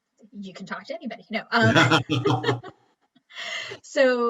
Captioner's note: laughs